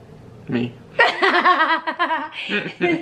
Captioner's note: laughs